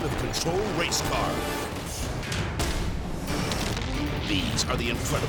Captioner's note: edgy dramatic music; fire exploding